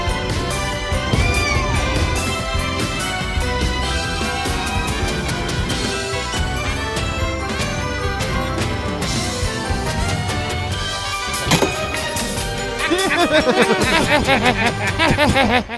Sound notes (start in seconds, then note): 0.8 meows; 11.0 spits; 12.8 laugh